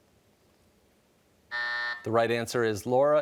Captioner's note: buzzer sounds